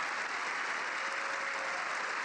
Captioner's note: applause